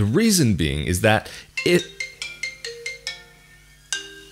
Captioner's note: phone rings